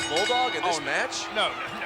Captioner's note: bell ringing